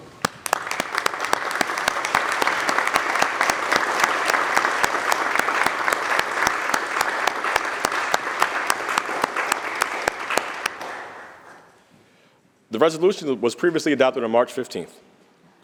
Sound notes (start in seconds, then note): 6.7 applause